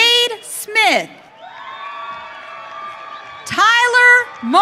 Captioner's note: audience cheering